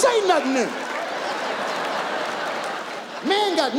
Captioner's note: audience laughs